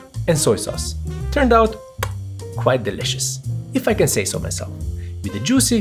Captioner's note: chef’s kiss